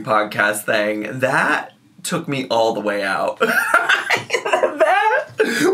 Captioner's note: laughs